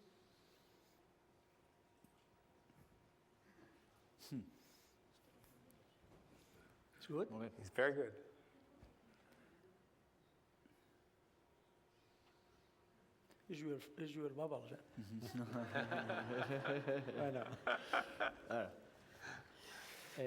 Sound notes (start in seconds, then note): 14.0 non-english speech; 15.3 laughter